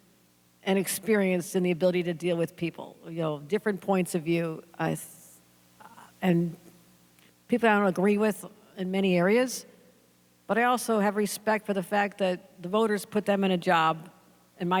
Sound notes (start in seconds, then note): none